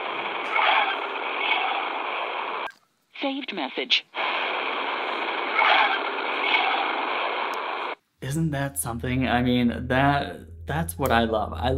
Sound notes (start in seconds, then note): 0.0 static